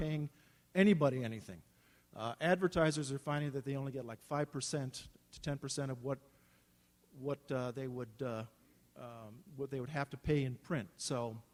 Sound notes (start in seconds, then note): none